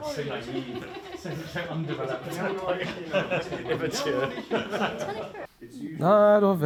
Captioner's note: laughter; more choir chit chat